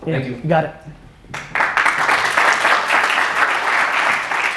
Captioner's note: audience applause